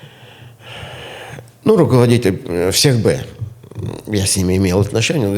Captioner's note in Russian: вздыхает; тяжело вздыхает; фыркает